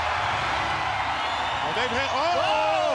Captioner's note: crowd cheering